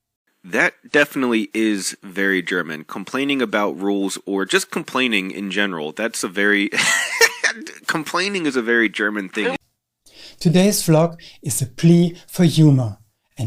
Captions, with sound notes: "That definitely is very German, complaing about rules or just complaining in general. (laughs) Complaining is a very German thing' Today’s vlog is a plea for humour,